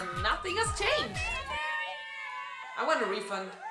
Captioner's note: BG: people screaming in celebration